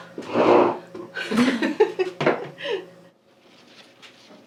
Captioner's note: laughs